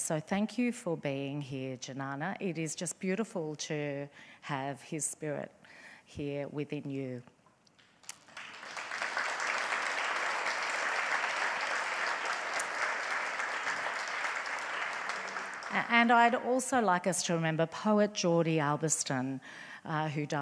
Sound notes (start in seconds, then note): 8.0 audience applauds